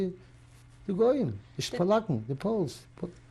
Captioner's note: yiddish